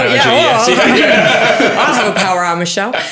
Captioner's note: all laughing